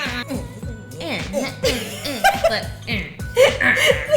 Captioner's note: laughter